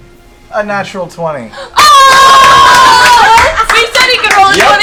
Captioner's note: cheering